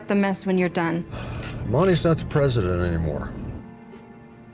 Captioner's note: sighs